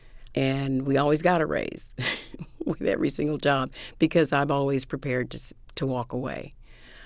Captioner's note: laughter